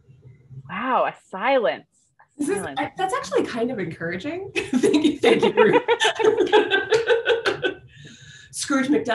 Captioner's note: laughter